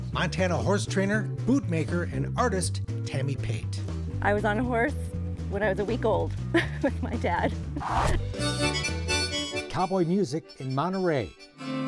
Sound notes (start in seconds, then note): 7.7 laughs; 8.2 harmonica music